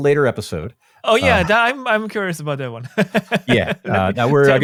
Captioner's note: laughs